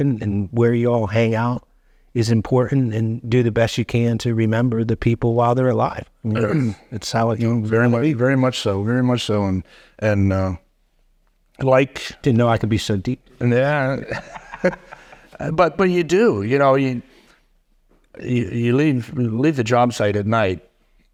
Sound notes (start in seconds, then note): 13.9 laughing